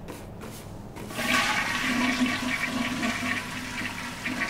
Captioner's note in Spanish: sonido cadena WC